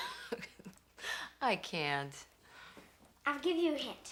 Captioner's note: chuckling